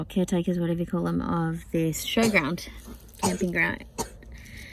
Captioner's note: coughs